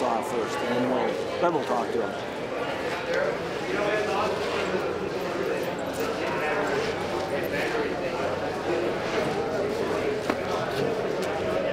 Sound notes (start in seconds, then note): 4.7 crowd chatting